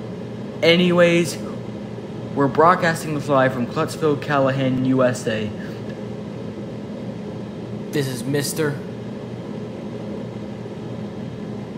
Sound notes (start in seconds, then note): none